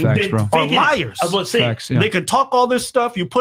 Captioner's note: shouting